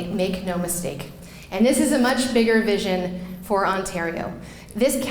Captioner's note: none